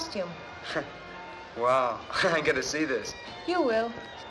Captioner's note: chuckling